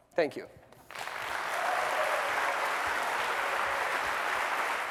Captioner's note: applause